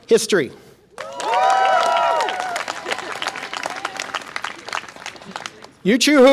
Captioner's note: audience applause and cheer